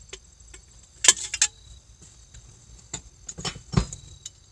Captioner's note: more cans clanking; thunk; rustle